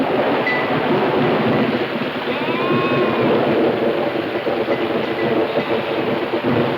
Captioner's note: thunder claps; wind howling